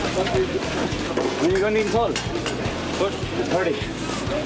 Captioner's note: construction chatter